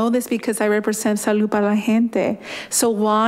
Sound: speaking in foreign language

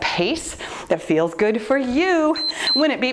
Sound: timer beeps

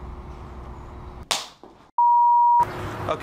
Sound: capacitor Pop

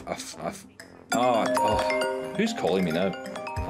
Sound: phone ringing

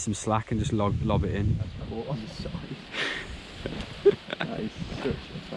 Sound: chuckling

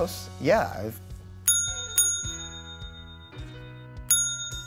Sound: bell ringing

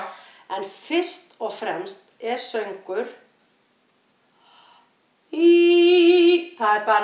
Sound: inhales

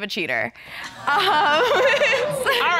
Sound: chuckles

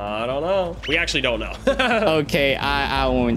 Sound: laughs

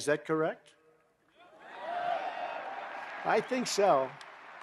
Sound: applause

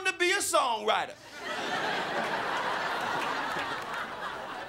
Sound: crowd laughing

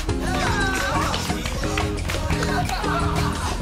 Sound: laugh

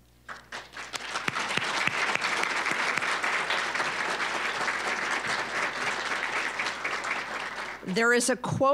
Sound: applause

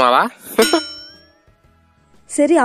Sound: chuckles

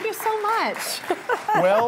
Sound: cheers and applause

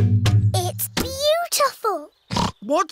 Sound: oinks

